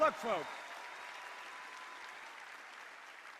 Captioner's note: applause